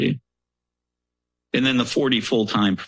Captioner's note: pause